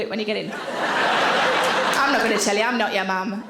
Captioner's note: audience laughing